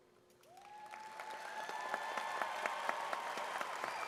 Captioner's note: audience claps